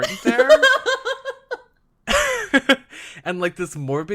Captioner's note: laughs